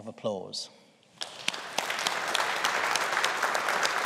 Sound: audience applauding

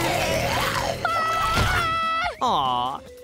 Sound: roaring; screaming

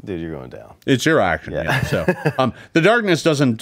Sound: laughs

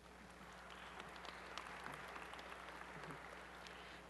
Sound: applause

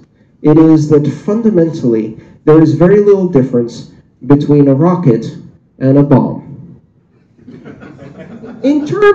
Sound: laughter

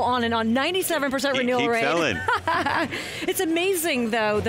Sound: laughs

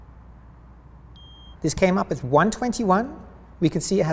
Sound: meter beeps

